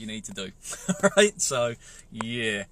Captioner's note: laughs